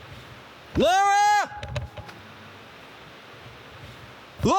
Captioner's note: screaming